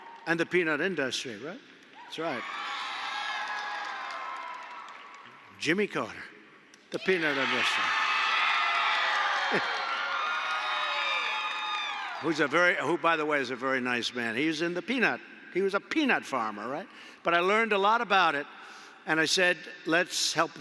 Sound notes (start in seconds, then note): 2.7 applause; 8.0 applause